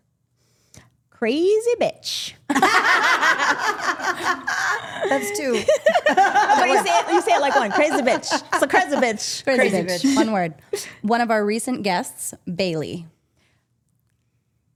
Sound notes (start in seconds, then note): 2.5 group laughing